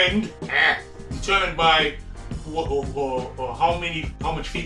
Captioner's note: stutters